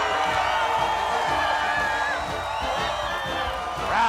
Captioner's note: crowd cheers